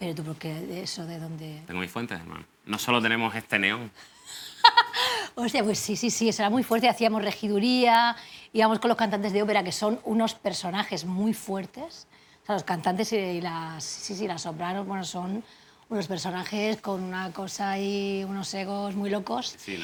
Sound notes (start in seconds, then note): 4.3 laughs